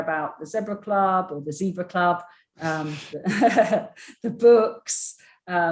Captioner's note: chuckles